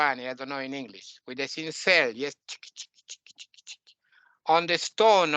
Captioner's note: sounds of carving the stone